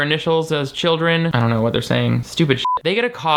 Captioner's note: beep